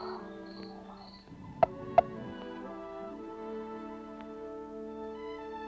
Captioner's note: clucking